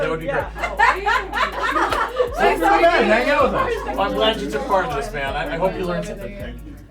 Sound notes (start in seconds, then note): 0.0 laughs